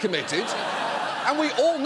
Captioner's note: audience laughs